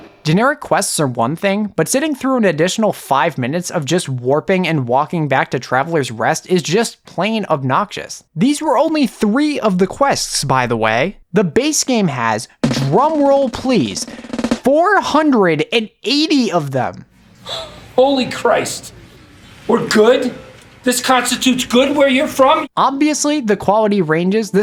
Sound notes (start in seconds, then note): 17.5 scoffs